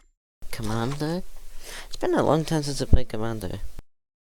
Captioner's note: gasp